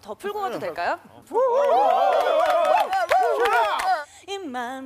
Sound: cheering again

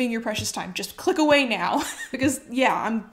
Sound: chuckles

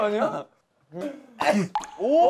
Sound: sneeze

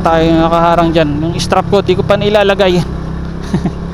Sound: laugh

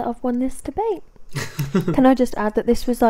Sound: chuckles

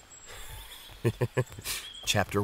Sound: laughs

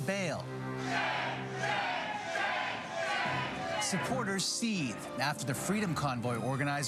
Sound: chanting

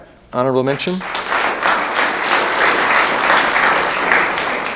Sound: room applauds

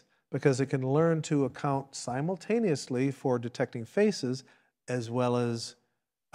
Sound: none

